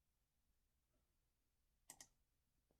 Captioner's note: click